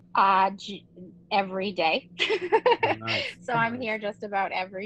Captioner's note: laughs